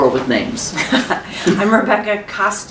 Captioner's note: laughs